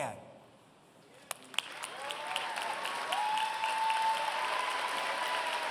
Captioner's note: applause